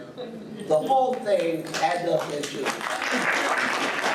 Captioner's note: audience applauds